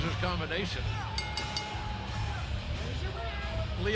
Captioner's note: bell ringing